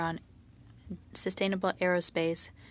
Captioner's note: speaking in French